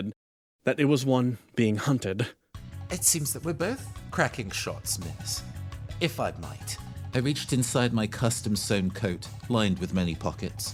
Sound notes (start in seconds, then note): none